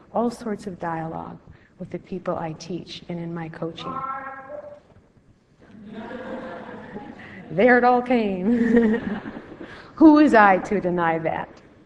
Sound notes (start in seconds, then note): 4.2 background yelling; 5.7 laughter; 8.5 laughter